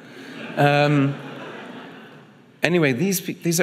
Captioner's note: audience laughing